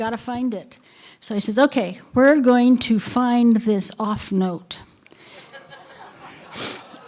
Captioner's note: laughter